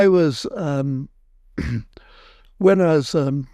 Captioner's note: Sir Chris clears his throat